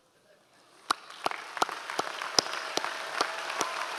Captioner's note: applauds